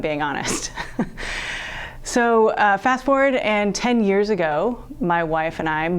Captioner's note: laughter